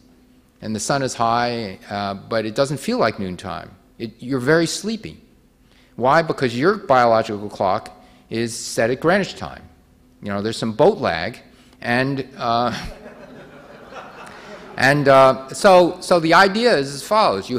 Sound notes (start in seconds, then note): 12.7 audience laughing